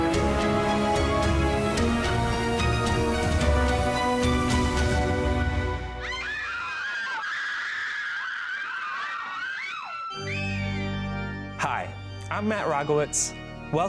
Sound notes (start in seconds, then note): 5.8 people screaming; 9.9 scary music